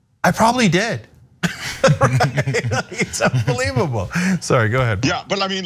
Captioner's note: laugh